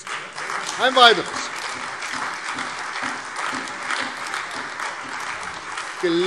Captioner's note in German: Beifall CDU, Freie Demokraten und vereinzelt AfD